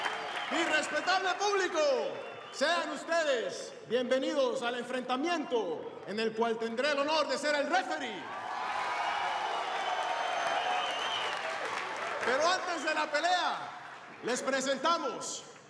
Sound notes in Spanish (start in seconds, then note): 8.2 aplausos y exclamaciones